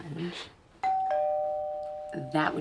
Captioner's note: doorbell rings